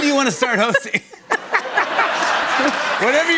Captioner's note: laughter